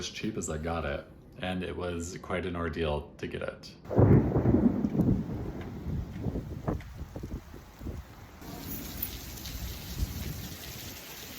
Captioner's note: thunder crackling ominously